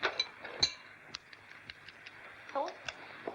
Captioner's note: dishware clanking; tapping